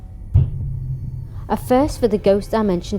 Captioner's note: thudding sound